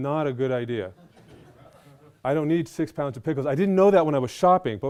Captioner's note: laughter